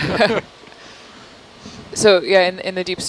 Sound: laughter

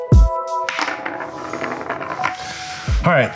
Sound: loud rolling

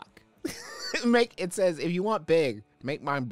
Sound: laughing

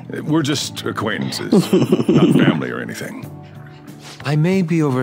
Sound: laughs

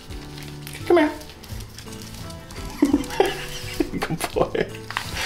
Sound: laughs

